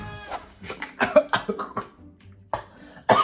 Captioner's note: gagging